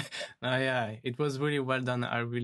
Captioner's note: laughs